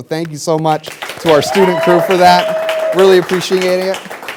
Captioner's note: applause